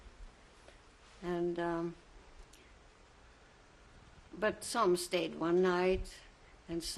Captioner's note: pauses for 3 seconds